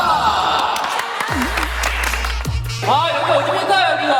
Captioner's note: applauding